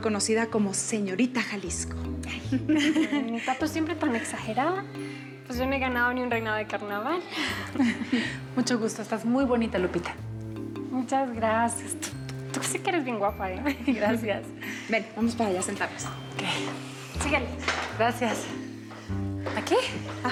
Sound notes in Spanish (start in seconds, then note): 7.7 risas